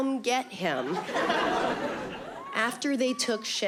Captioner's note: audience laughing